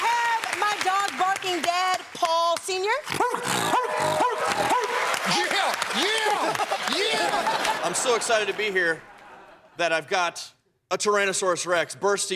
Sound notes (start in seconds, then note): 0.0 cheers and applause; 3.1 barking